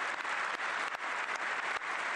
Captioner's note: applause